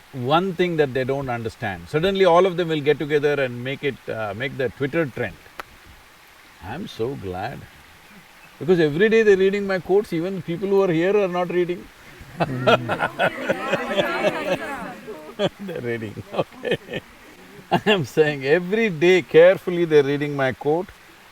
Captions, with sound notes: one thing that they don't understand, suddenly all of them will get together and make it... make that Twitter trend. I'm so glad, because every day they're reading my quotes, even people who are here are not reading (Laughter). They're reading, okay. I'm saying, every day carefully, they're reading my quote.